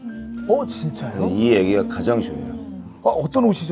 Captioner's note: haha